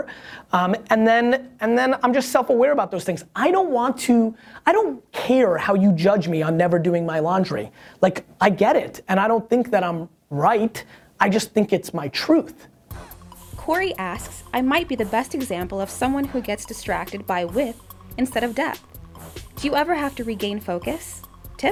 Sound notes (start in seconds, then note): 13.0 voiceover